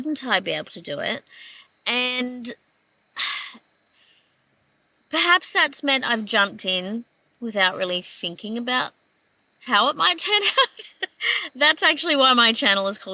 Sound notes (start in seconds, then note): 1.3 exhales; 10.4 laughing